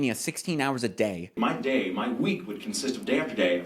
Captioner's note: talking